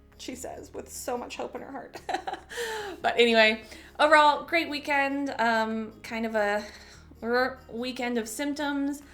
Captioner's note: chuckle